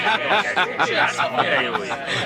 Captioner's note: chuckling